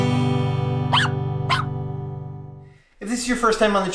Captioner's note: dog barking